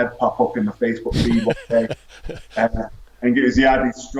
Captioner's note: laughs